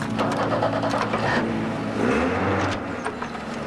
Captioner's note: igniting of engine